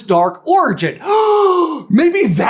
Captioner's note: gaaaaaaaaaaaaaaaaaaaaaasp